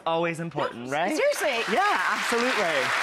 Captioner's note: audience clapping